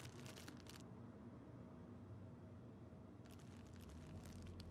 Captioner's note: bag crinkling